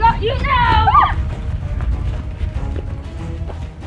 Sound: footsteps

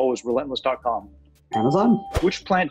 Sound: ding

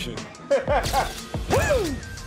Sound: laughter

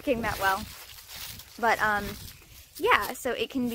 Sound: leaves crunching throughout

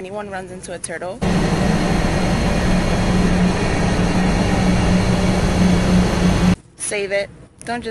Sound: Static

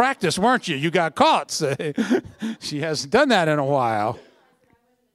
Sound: laughter

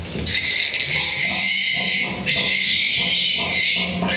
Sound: squealing

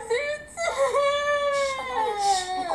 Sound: Toy Chica crying

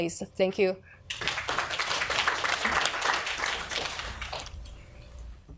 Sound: audience applauds

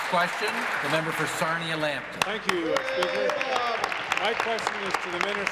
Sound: applause

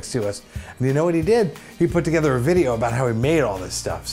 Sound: none

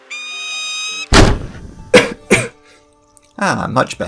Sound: peregrine Falcon Screeching; cough cough

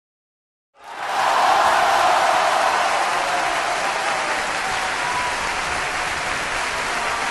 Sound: cheering

